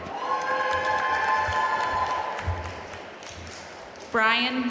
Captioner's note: audience cheering and applauding